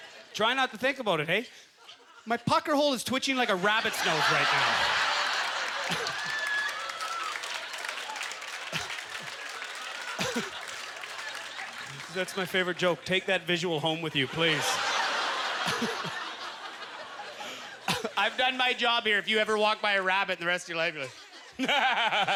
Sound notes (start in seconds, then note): 4.1 laughter and applause; 14.0 audience laughter